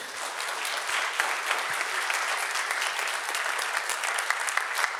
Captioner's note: attendees clapping